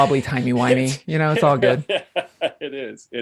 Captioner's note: laughs